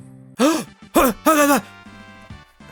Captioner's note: gasps